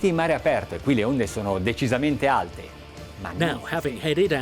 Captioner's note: speaking in foreign language